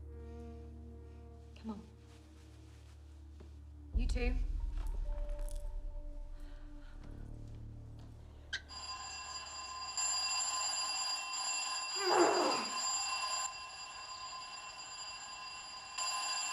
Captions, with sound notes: - Come on. You too. (ringing) (growling)